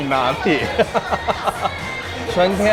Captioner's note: laughter